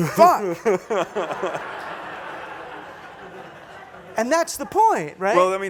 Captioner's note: laughter